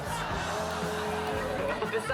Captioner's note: laughter